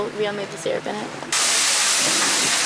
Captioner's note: sizzling sausage